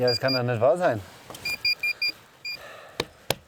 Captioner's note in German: Piepsen